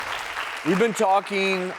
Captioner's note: audience applauds